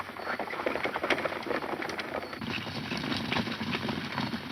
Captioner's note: horses galloping